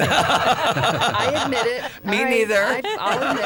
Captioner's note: laughter